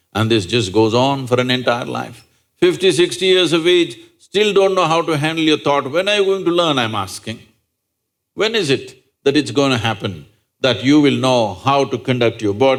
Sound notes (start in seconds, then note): none